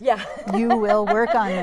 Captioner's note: laughs